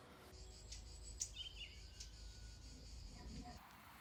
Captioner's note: birds singing